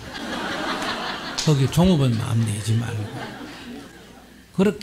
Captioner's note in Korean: 청중 웃음